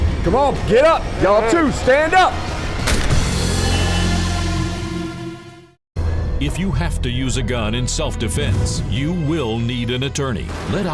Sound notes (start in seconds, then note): 3.8 dramatic music; 6.5 voiceover